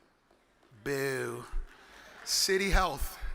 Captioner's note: audience claps